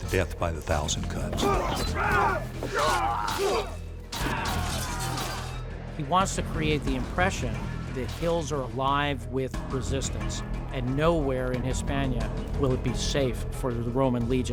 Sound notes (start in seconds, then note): 1.4 shouting, clanking